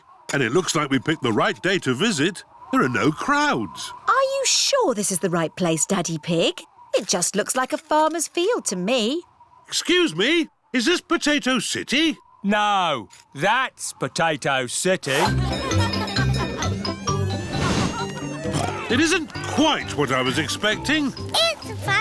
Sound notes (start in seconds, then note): 15.1 cheerful jingling; 17.6 oinks